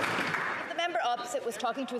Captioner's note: some Applause